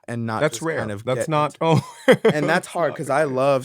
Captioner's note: laughing